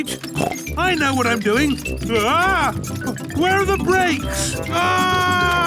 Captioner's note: scream